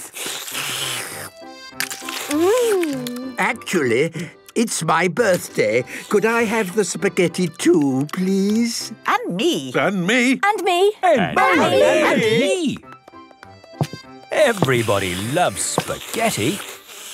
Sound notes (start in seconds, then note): 0.0 slurping; 9.2 calling out in turn